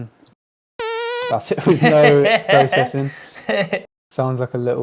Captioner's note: laughter